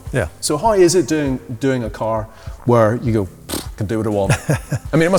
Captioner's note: scoffs